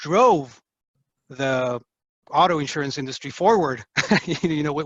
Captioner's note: laughs